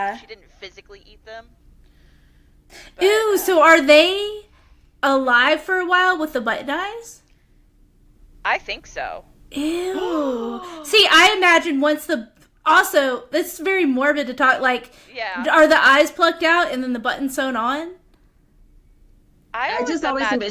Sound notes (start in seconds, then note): 9.7 gasps